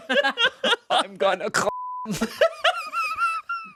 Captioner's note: laughs; beep; everyone laughs